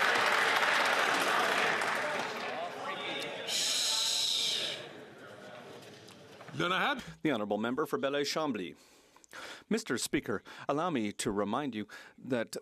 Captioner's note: some Applause